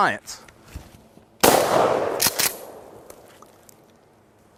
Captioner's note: gunshot